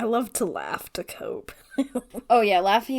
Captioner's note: laughs